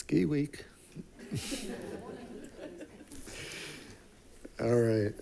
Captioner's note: group giggling